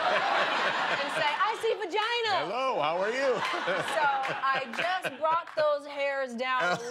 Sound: laughter

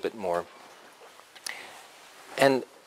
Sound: pause

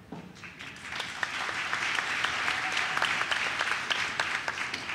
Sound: audience claps

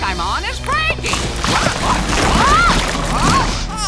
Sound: groaning

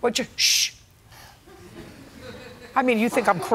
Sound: laughter

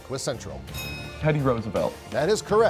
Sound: ding

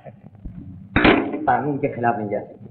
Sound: receiver hang up

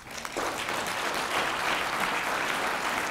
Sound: applause

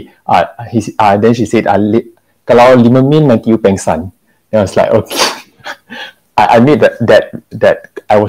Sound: bursts into laughter

